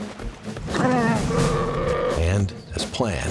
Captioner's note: bears and wolves growl